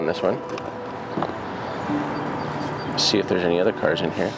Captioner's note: birds singing